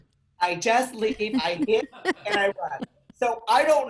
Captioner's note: laughing